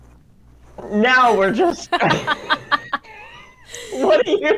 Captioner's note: laughs